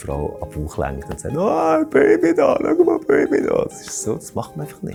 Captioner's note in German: verstellt seine Stimme